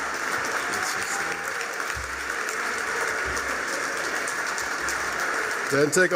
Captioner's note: applause